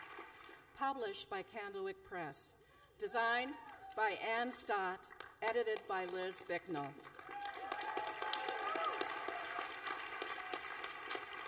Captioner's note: applause